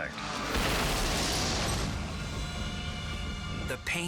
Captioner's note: crashing